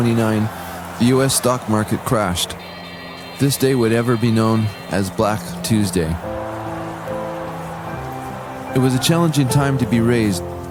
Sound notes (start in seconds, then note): 2.6 stock exchange bells ringing